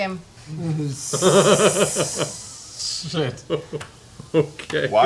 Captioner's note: laughs